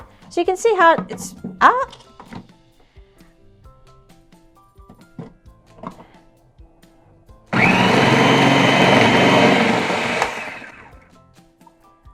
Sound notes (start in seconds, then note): 7.5 processor whirs